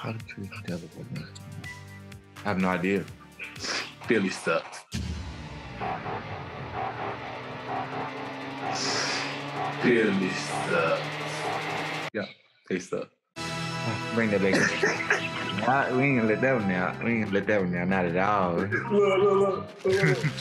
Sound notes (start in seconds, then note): 4.9 suspenseful music; 14.3 laughing